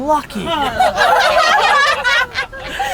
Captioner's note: laughter